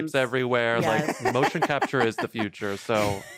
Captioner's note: laughs